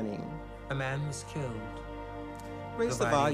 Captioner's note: voiceover